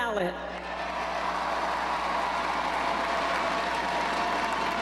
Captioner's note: crowd cheers